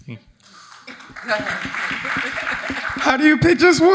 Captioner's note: audience applauding